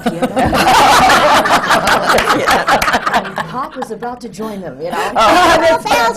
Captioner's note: laughter